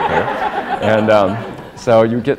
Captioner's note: laughter